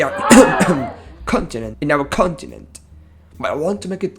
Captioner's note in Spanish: cof